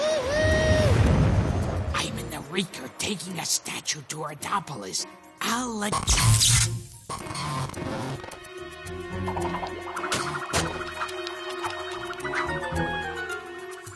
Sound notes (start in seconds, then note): 2.1 whispering; 6.0 zap